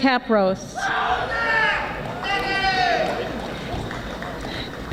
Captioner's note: audience yelling